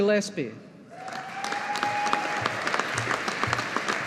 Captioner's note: audience applauding